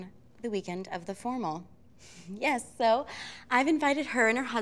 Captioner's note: none